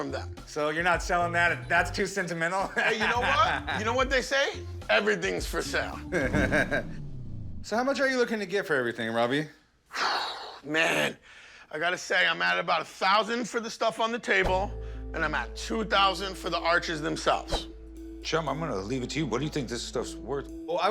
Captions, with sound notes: - So you're not selling that. That's too sentimental? - Hey, you know what? You know what they say? Everything's for sale. - [chuckles] So how much are you looking to get for everything, Robby? - [exhales deeply] Man... I got to say, I'm at about 1,000 for the stuff on the table, and I'm at 2,000 for the arches themselves. - Chum, I'm gonna leave it to you. What do you think this stuff's worth?